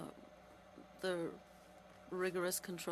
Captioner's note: speaking French